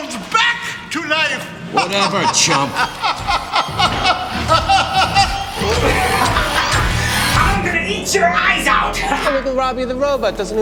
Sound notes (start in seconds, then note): 4.1 laughs maniacally; 5.4 mechanical whirring